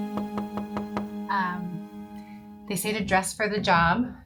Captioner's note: soft knocking